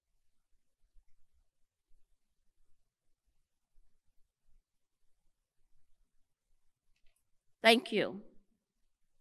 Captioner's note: moment of silence